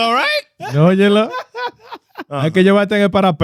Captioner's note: speaking Foreign Language